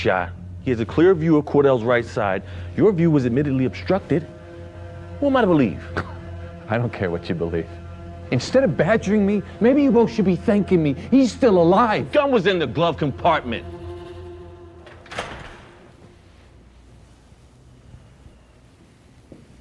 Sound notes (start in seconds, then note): 14.6 door opening